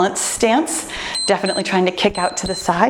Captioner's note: timer beeps